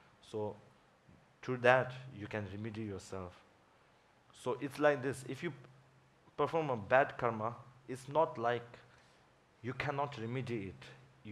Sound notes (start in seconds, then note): none